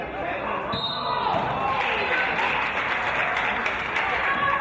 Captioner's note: referee's whistle